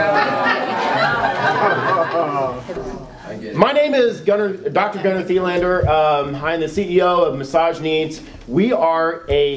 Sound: laughing

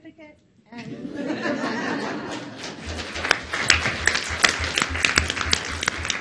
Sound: audience laughs and applauds

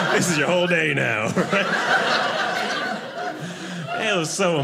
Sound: audience laughing

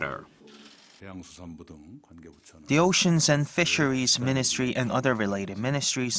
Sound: Korean

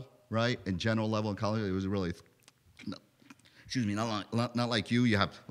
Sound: chokes

